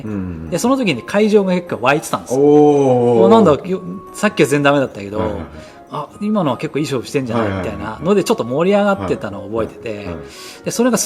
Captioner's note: laughs